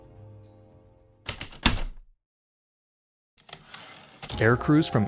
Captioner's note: heavy typewriter keystrokes, return slide